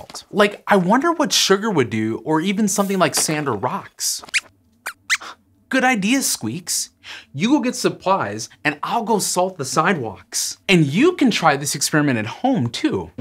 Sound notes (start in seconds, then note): 4.3 squeaks!